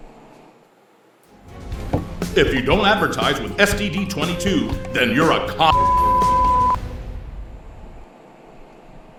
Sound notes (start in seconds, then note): 5.5 beeping